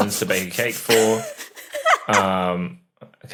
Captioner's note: guessers giggling